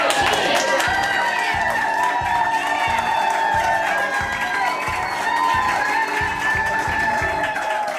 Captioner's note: crowd clapping and cheering